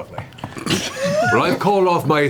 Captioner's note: all laugh